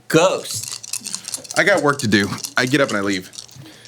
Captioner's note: dice rolling